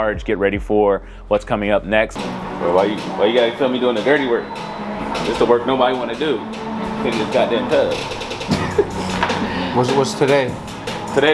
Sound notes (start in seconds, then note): 8.4 laughing